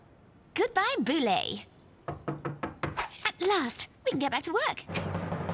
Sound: knock on door

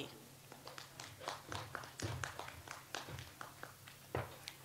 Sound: audience applauds

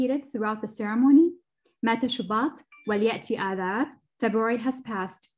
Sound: non-english speech

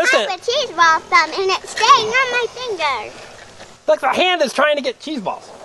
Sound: voiceover

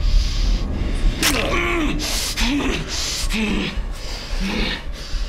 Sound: crunching and grunting

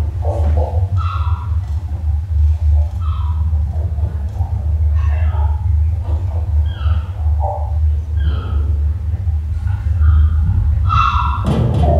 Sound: thudding & underwater noises continue with faint seagull cries

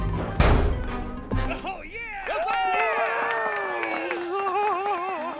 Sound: cheering

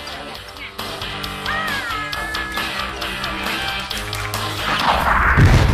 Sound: cheering; explodes

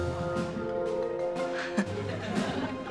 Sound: chuckles

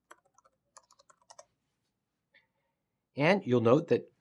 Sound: typing

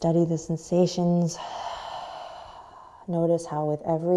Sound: sighing exhale

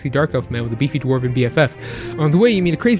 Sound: deep breath

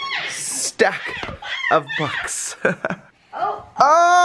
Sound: laughs

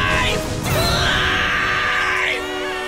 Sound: screaming

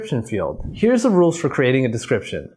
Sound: video clip whooshes

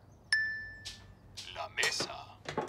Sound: phone dings; phone speaks Spanish

